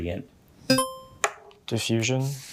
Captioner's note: buzzer ringing